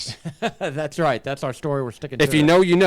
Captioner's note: laughs